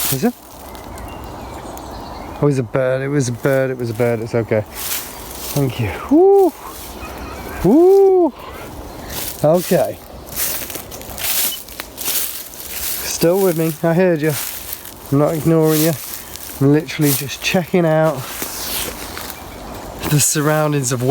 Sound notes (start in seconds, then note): 1.3 birds chirping; 10.3 leaves rustling; 11.5 beep